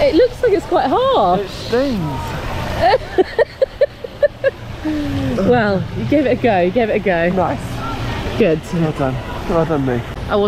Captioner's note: laughter